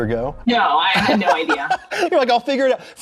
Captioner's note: laughs